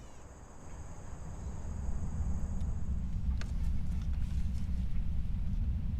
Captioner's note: low rumbling ambiance